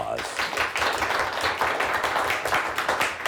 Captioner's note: clapping